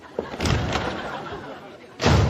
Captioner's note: laugh track